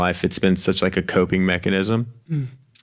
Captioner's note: none